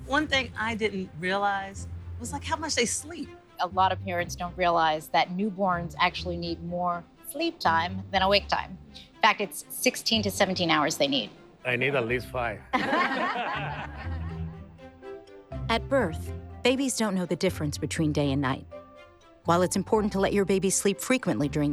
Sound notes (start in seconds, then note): 12.7 all laughing